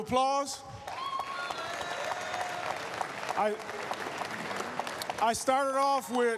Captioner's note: applause, cheers